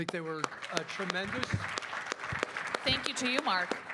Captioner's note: applause